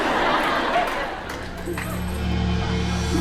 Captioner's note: laughter